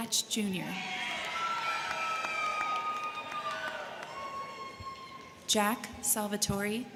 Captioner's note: crowd cheering; crowd clapping